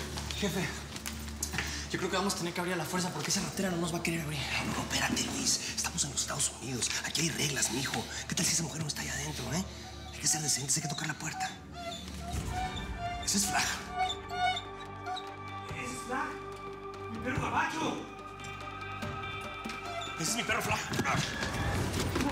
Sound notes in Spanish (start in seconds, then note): 12.0 gemidos de un perro; 14.4 gemidos del perro